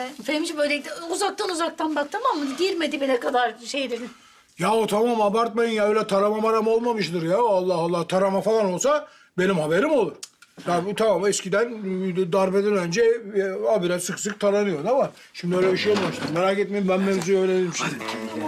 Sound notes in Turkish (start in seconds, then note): none